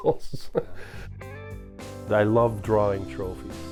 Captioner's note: laughs